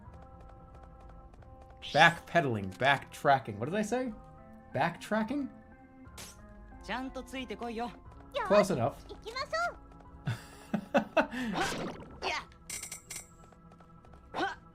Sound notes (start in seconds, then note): 10.3 laughing